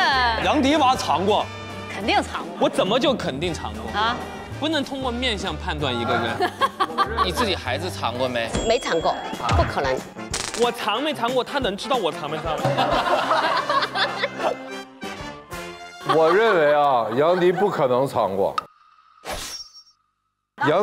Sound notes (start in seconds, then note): 12.7 hahahaha